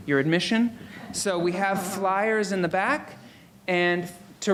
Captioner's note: audience laughing